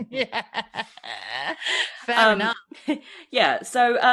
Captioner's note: laughs